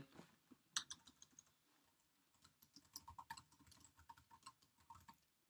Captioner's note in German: Klicken der Tastaturtasten